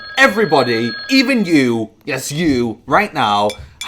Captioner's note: phone rings